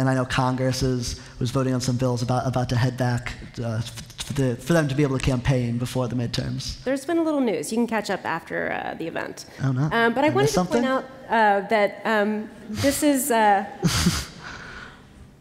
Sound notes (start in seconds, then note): 13.8 laughter